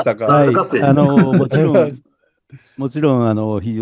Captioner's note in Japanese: 笑い